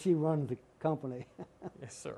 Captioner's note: laughter